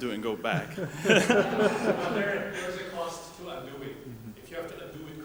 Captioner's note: laughing